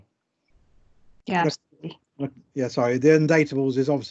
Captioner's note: audience Mutter In Agreement